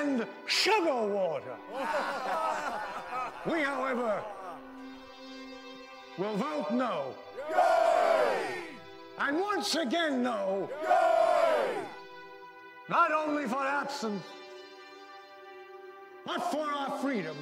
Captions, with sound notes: - [Crowd] (laughter) - We, however, will vote no. - [Crowd] No! - And once again, no! - [Crowd] No! - Not only for absinthe but for our freedom.